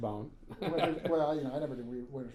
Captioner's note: laughing